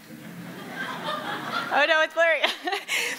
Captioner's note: laughing